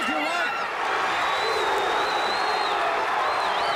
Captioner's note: fans cheering